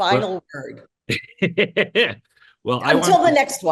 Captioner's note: laughs